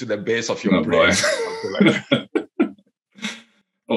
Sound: laughs

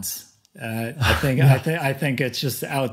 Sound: chuckling

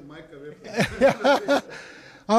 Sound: laughter

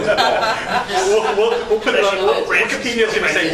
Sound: laughter

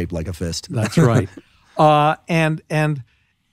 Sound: laughing

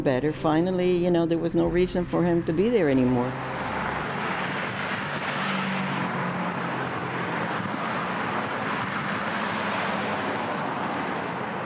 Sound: cars driving

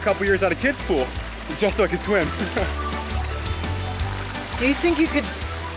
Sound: laughs

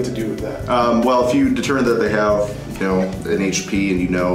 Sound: voiceover

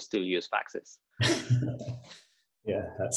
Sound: laughter

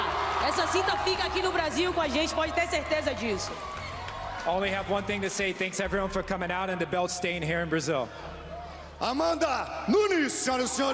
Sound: speaking foreign language

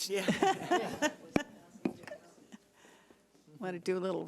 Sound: people laughing

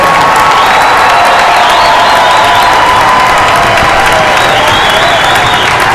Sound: cheers and applause

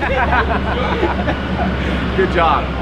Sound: people laughing

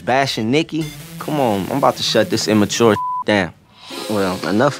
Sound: beep

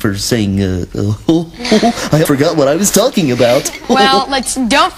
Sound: chuckle

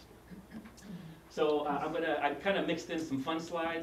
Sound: cough

